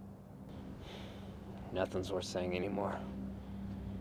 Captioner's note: exhales